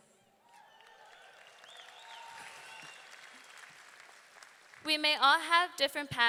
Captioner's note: audience cheering; audience clapping